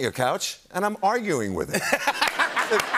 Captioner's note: laughter